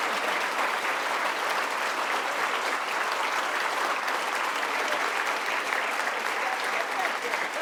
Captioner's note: applause